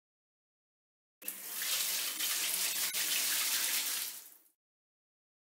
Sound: sound of bathroom shower

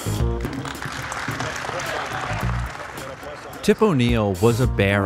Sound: audience applauds

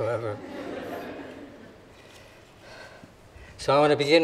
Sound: audience laughing

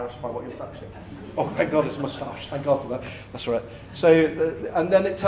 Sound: laughter

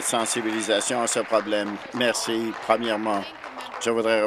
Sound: applause

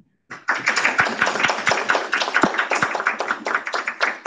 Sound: audience applauding

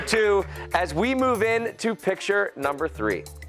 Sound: cheers and applause

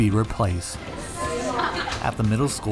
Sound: students talking in the hallway

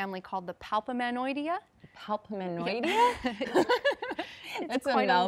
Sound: laughing

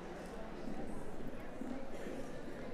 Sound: none

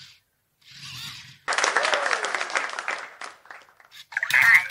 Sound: applause

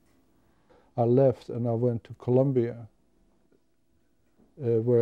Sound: none

